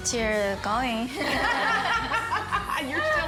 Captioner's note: laughter